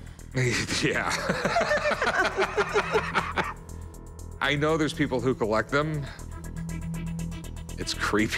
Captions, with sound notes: I mean, think about where this has been. Yeah. [laughter] I know there's people who collect them.